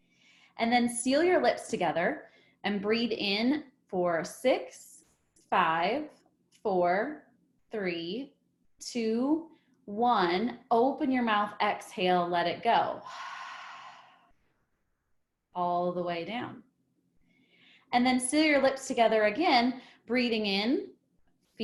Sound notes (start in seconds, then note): 0.0 exhales; 13.0 exhales